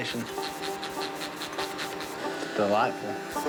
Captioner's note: spray hissing